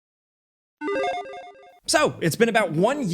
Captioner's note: logo beeping